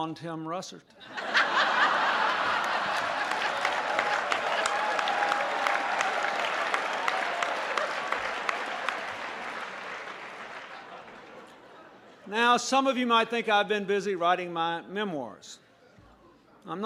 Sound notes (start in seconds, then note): 4.3 laughter; 6.0 applause